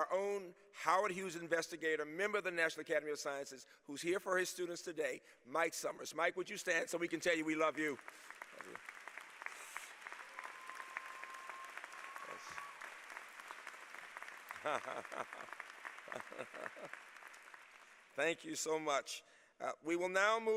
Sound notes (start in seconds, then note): 8.1 laughter